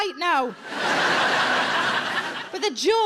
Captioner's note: audience laughing